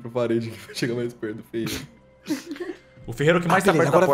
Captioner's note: laughs